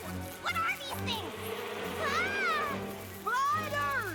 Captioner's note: buzzing